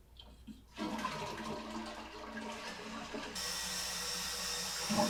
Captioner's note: toilet flushing